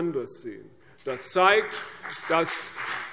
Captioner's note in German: Beifall CDU und BÜNDNIS 90/DIE GRÜNEN